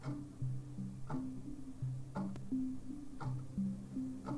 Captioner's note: clock ticking